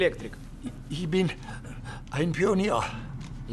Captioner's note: speaking German